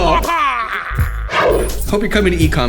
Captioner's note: yelling